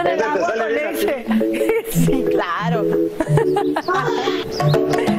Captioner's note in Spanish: risas